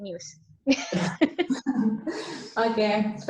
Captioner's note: laughs